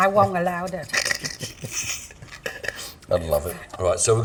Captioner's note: giggling